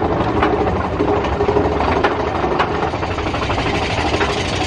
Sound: track clacking

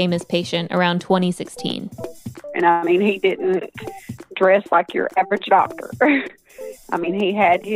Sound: chuckles

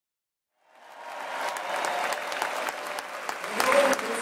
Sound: cheering

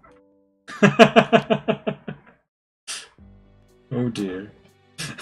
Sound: laughs; laughs

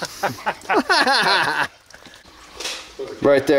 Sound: laughter

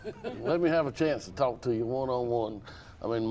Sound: laughter

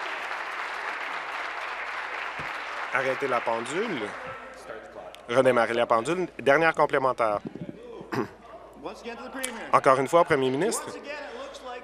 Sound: some Applause

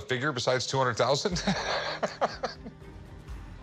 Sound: laughs

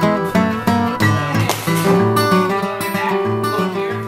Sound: crashing heard under music

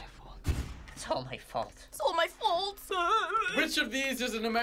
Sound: cries

